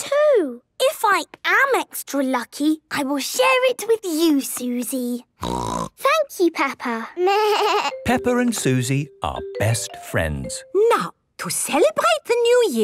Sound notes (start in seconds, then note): 5.4 snorting; 6.8 bleating